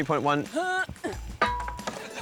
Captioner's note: grunts